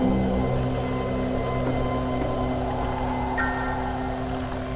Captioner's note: wind howling